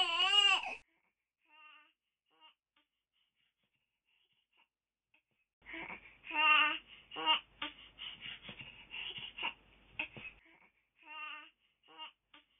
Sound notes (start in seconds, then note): 0.0 baby Crying; 4.3 baby Crying